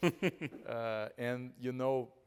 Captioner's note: chuckling